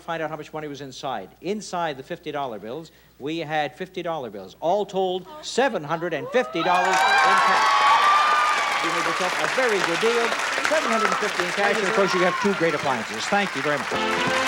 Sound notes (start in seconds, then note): 7.5 applause